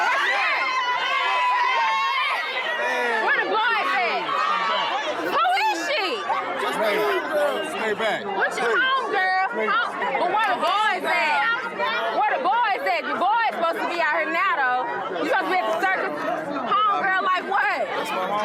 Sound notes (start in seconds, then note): 1.2 crowd exclaiming